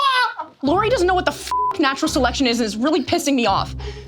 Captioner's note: beep